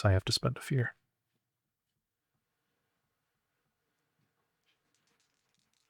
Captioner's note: silence